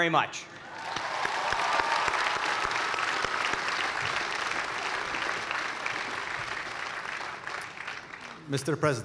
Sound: cheers and applause

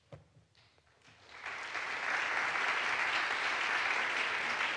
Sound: audience applauds

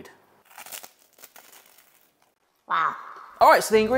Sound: bread crunching

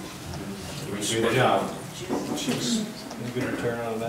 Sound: murmurs

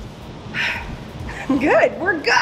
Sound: dramatic exhale

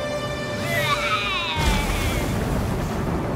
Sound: imitates roaring

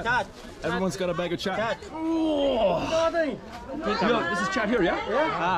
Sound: groans

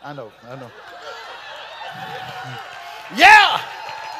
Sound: congregation laughing

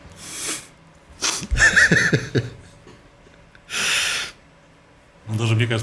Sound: laughs

